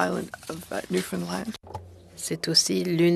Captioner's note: speaking French